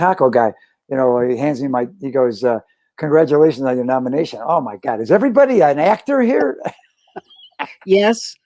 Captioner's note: laughter